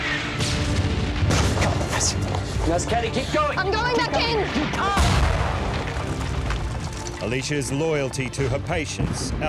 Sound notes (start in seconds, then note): 4.9 explosion